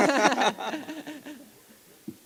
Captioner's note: laughter